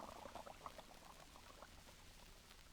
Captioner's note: water lapping